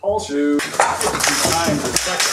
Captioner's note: crashing